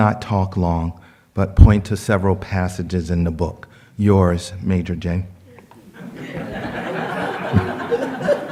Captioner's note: laughter